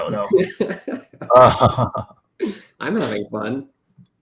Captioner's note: laughter